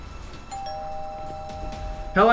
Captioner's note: doorbell rings